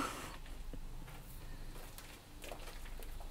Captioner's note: footsteps and wind in the background